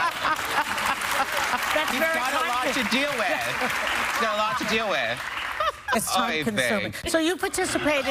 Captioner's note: laughter